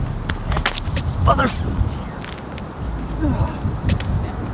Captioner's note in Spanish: tortazo